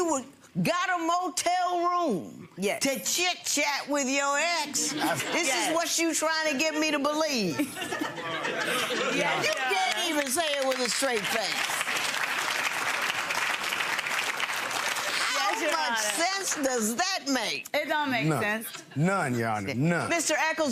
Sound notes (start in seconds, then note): 7.4 giggles; 11.4 audience applauds